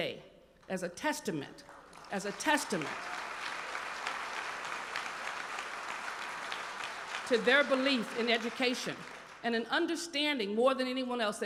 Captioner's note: applause